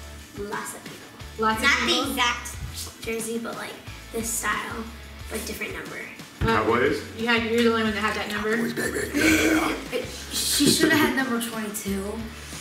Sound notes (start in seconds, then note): 8.5 laughs